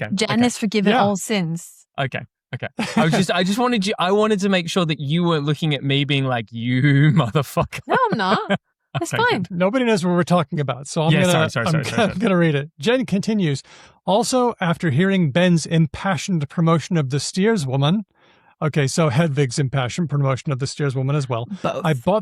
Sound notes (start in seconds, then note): 2.6 chuckles; 7.6 laughs